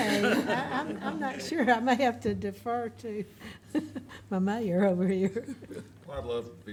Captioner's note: laughs